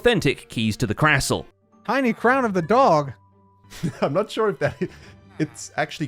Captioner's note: laughs